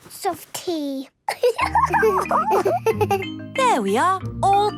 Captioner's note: giggles